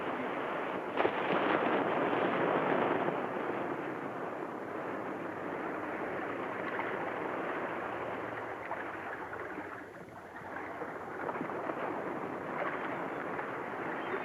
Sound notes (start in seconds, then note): 5.6 water laps